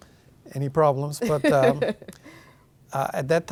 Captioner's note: laughing